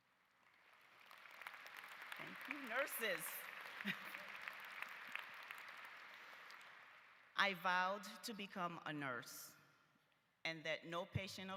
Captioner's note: applause